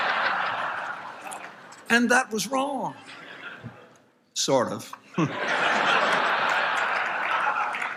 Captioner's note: laughter